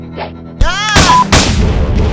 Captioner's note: scream/gun fires